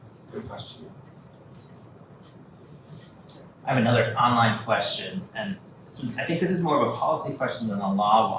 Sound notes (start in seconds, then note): 3.5 audience member speaking